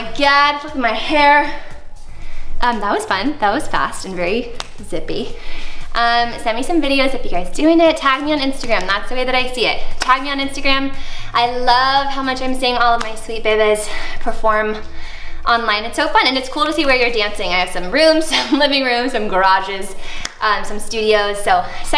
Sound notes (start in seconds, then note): 4.5 fingers snap